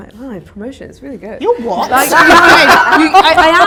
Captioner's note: audience laughter